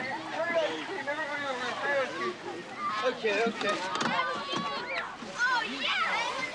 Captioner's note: crowd chattering